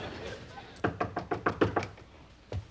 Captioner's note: knocking on door